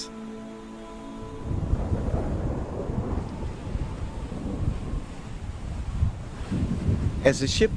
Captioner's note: thunder Sound